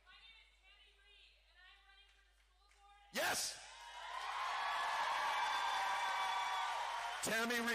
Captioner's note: cheering